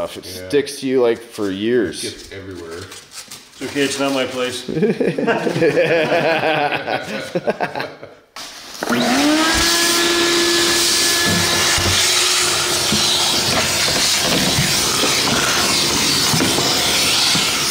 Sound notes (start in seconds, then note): 4.6 laughing; 9.2 vacuum whirring